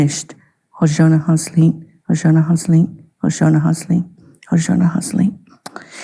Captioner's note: speaking Indigenous language